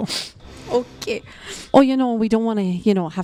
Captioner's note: laughing